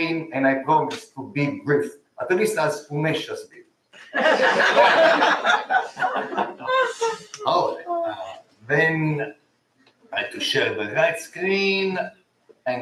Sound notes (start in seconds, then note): 4.0 laughter